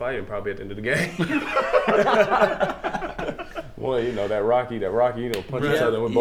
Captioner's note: laughing